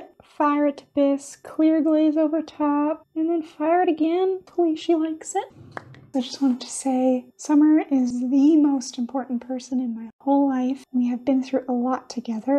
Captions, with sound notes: fire it to bisque clear glaze over top and then fire it again. Hopefully she likes it. [POP!] I just wanted to say Summer is the most important person in my whole life. We have been through a lot together.